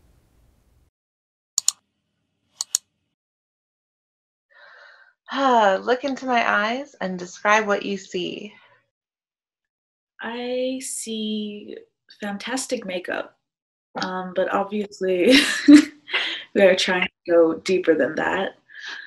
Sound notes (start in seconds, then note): 2.6 clicks; 5.9 sighs; 13.1 chuckling